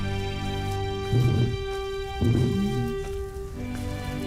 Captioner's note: uplifting music; lions roaring